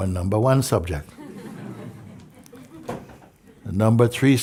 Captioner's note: Lachen